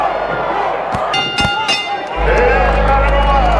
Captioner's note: bell ringing